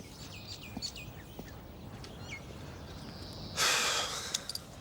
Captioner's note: birds chirping; Dave sighs